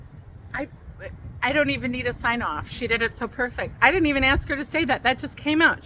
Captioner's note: stammers in awe